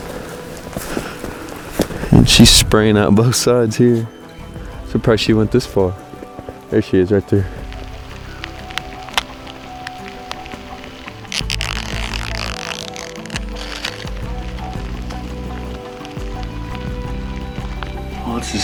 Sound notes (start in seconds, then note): 0.0 sound of walking; 10.4 sound of peeling tag; 15.1 soft music